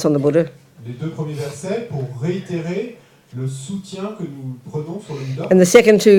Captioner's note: French